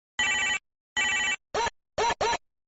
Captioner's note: ring, ring, ring